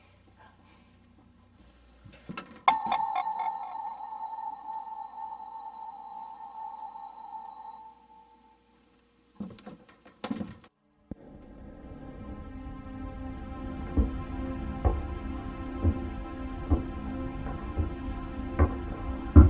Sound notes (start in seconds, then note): 0.4 heavy breathing; 2.6 ominous sound; 10.0 rattling sound; 11.0 suspense background music playing; 14.7 footsteps